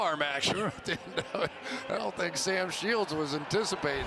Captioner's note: laughs